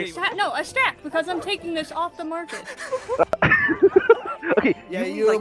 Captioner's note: laughter